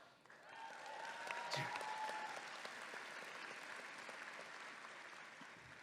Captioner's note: audience clapping and cheering